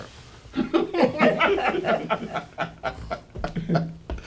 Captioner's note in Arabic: يضحك